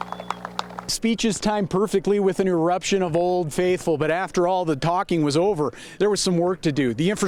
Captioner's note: applause